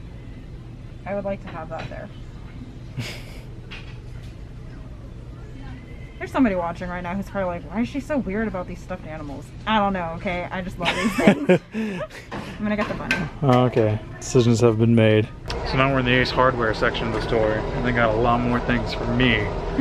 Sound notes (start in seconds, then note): 2.9 chuckles; 10.8 laughter